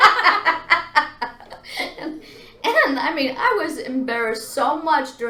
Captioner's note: laughs